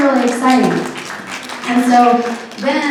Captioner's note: applause